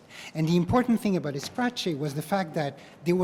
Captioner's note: spanish